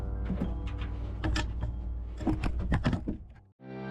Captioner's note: camera rattles